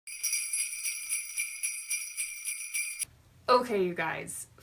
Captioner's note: bells jingling